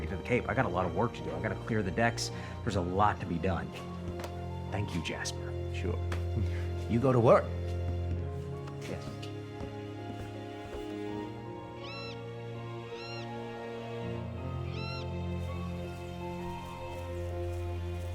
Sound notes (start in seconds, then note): 11.5 bird calling; 13.9 light melodic orchestral music